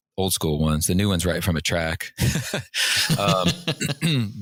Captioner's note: laughter